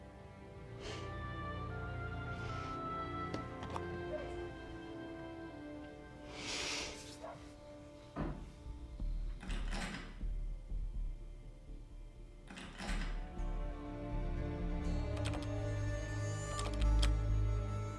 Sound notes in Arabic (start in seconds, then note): 0.0 موسيقى تأملية; 0.7 سخرية; 4.1 كلب ينبح بصوت أعلى في الخارج; 9.3 صوت قعقعة القفل; 14.4 صوت قعقعة قفل أعلى